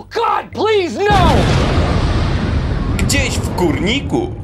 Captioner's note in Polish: boom!